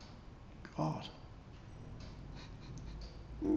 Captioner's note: chuckles